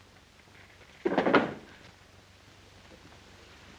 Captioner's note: drawer smacks shut